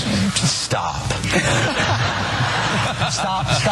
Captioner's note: laugh